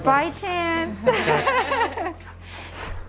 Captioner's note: laughing